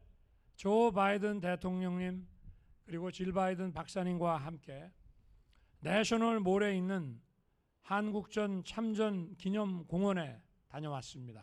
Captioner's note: speaking non-english